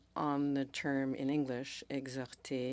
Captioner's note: speaking French